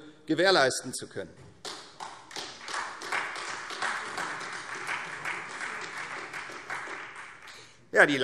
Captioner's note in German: Beifall